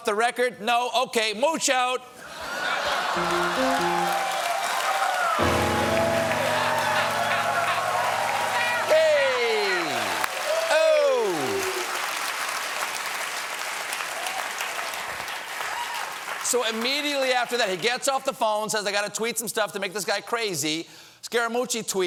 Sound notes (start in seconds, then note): 5.9 laughter